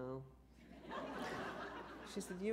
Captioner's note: laughter